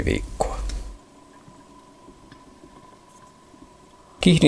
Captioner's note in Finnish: vedenalaisia ääniä